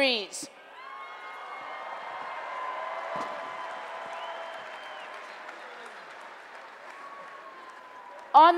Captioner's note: applause and Cheering